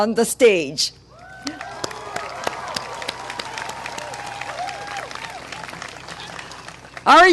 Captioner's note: clapping and cheering